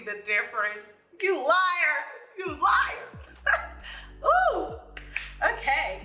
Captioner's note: laughs